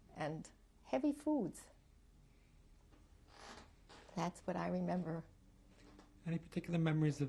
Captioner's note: pauses for 3 seconds